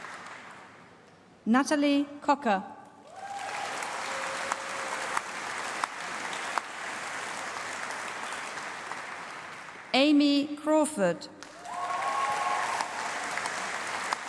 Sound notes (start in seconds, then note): 0.1 applause; 11.4 applause